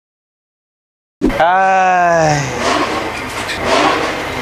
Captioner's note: sigh